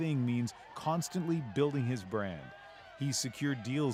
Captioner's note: cheers and Applause